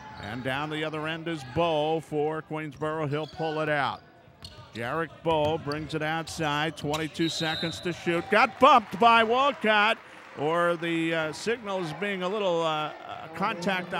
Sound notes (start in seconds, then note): 7.2 whistle blows